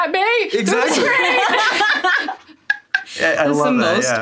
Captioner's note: everyone laughs